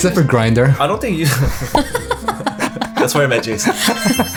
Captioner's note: laughs